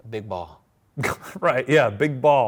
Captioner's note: laughs